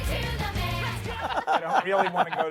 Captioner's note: laughter